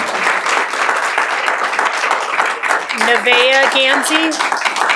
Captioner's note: applause